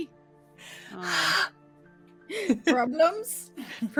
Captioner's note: exhales